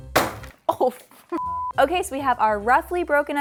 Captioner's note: pin pounding; beeps